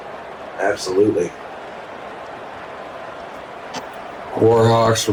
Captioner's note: crowd cheering